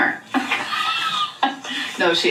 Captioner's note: laughing